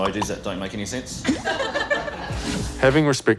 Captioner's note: laughter